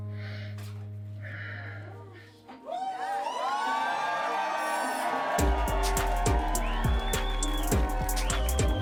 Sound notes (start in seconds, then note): 2.5 audience cheering